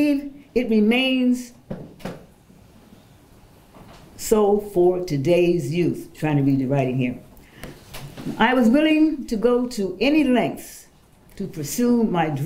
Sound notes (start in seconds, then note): none